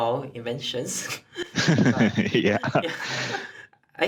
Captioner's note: laugh